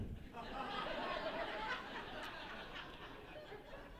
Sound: laughter

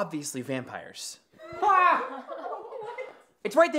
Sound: group scoffing

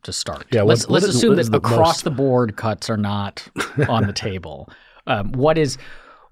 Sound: chuckle

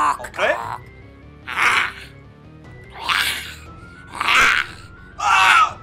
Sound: Gremlins growl

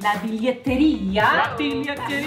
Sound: non-english speech

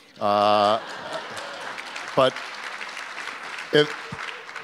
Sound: audience applause

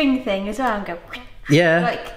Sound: air whooshing

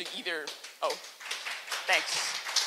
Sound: applause

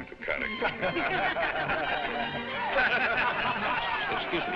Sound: crowd laughing

